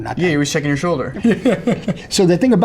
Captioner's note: laughs